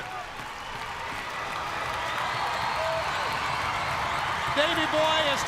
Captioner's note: crowd cheering